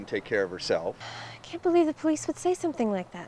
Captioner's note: sighs